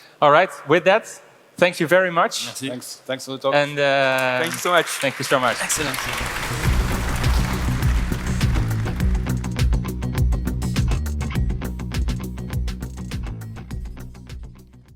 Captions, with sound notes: - All right, with that, thank you very much. - Thanks, thanks for the talk. - Thank you so much. - Thank you so much. - Excellent. (audience applauding) (upbeat music)